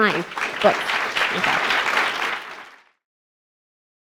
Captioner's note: applause